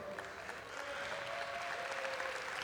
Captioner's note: applause